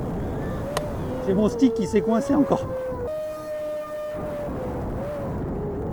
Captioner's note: on the radio